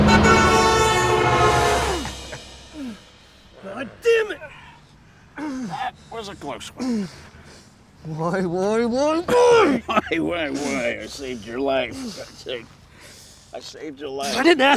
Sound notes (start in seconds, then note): 0.0 horn honking; 1.6 men grunting; 5.3 Mark grunting